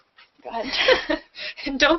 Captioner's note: laughter